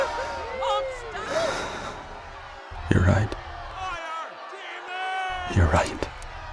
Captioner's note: sighs